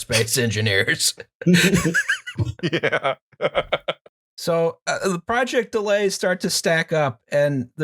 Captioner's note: laughter